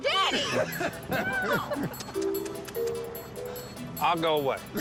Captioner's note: laughter; making kissing noises